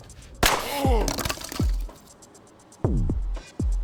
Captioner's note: gun fires; tense music